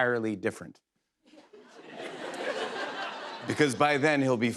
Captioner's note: laughter